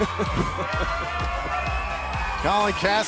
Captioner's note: laughter